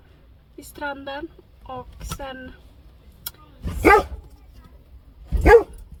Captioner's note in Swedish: hunden skäller